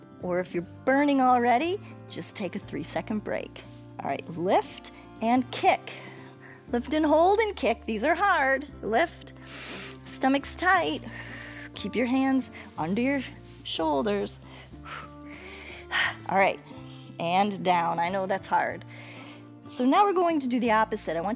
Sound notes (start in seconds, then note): 9.4 exhales; 9.4 inhales